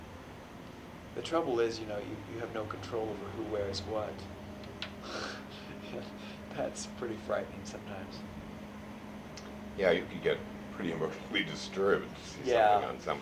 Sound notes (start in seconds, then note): 5.1 laughs